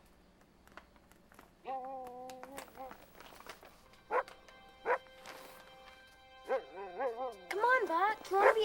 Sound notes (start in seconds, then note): 1.7 Buck barking